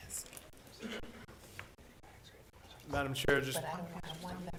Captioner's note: board chatting quietly